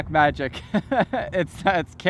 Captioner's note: laughs